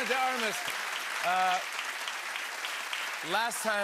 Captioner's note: cheers and applause